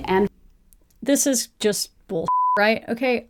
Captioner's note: beeping